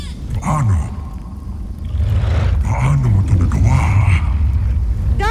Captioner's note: guttural roar